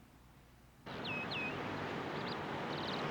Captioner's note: birds tweeting